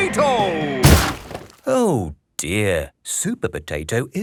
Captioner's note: crashes